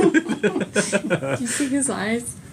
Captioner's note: laughter